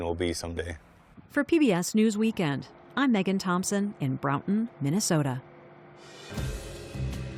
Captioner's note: voice-over